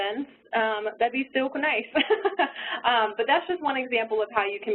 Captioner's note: laughs